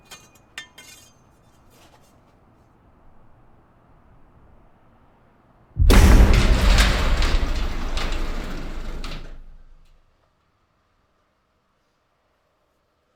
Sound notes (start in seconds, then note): 0.2 metal pipe scrapes; 5.8 metal pipe thuds; 5.8 garage door scrapes open